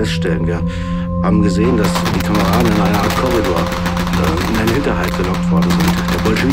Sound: sounds of battle

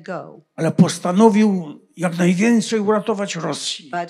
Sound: foreign language

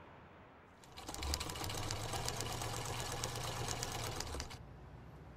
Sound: sewing machine runs

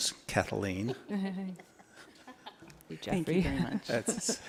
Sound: laughter

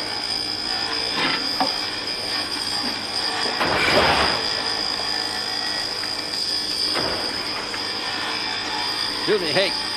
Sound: welder whirring

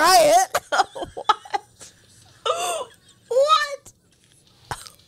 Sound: laughs

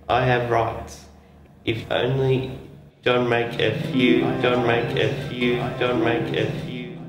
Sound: voice echoes repeatedly

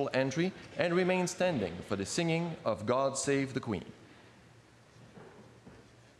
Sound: speaking French

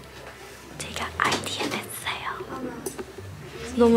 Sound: whisper

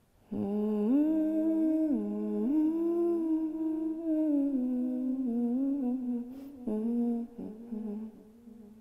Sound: humming

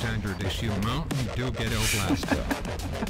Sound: snickers

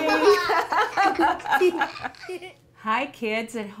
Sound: laughing

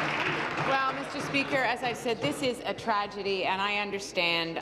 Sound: applause

